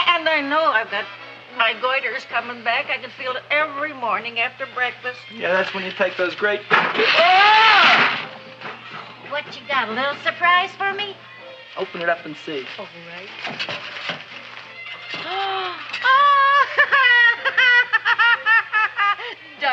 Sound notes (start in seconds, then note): 6.9 Seymour yells; 15.2 Seymour's mother gasps; 16.0 Seymour's mother laughs